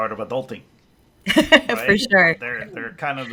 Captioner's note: laughs